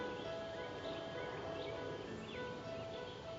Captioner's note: jet overhead